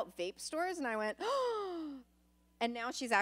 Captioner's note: gasps